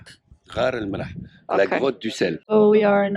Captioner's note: speaking arab and french